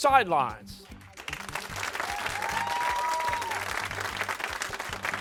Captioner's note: cheering